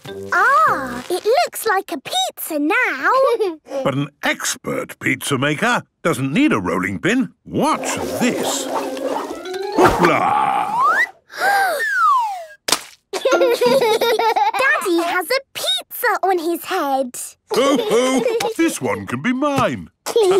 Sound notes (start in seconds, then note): 11.1 Peppa gasps; 12.6 splat